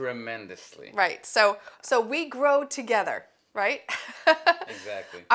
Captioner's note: laughs